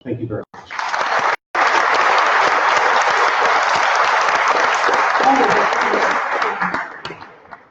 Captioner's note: applause